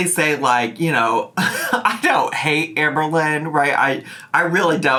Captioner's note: chuckles